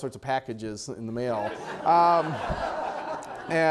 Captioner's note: audience laughter